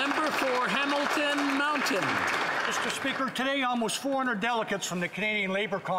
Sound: some Applause

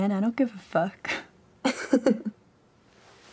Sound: laughs

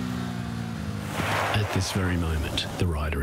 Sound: wheels skidding

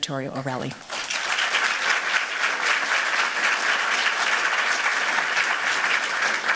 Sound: applause

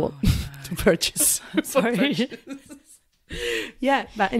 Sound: laughs

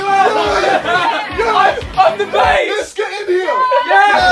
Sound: cheering

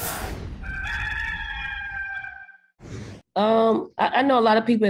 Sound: cock crows

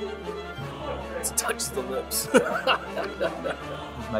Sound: laughs

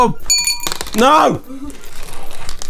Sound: spitting skittles in glass

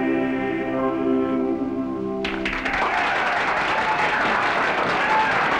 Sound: clapping, cheering

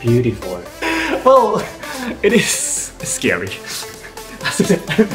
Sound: gasps

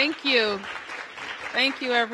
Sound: applause

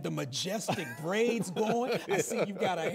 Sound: laughs

